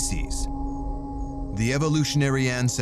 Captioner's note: crickets chirping